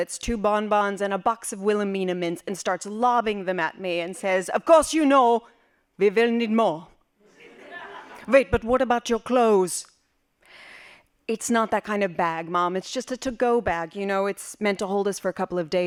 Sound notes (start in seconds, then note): 7.3 laughing